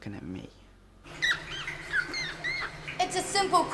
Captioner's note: squeaking